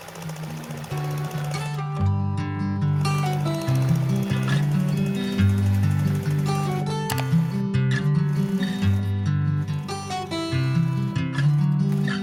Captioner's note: sewing machine noises